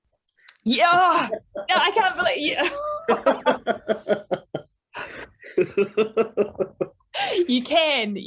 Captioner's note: all laugh